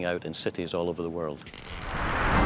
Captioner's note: crackling